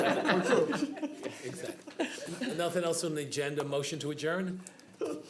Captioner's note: laughter